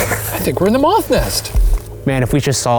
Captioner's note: laughs